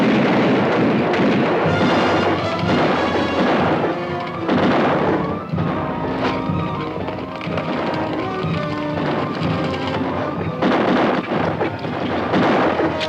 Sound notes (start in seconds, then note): 1.9 dramatic orchestral music; 1.9 guns fire